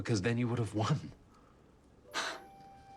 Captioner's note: scoffing; light orchestral music